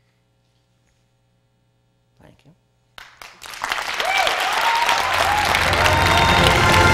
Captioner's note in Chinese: 掌聲